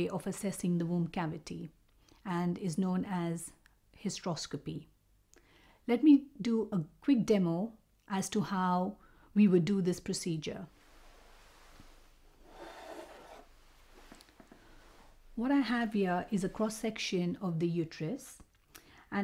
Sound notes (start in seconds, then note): 12.7 model scrapes